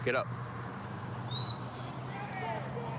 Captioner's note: whistle; indistinct shouting